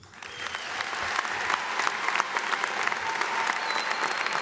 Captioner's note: audience applauds